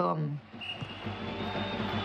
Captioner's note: music stops, reverberates; whistle blows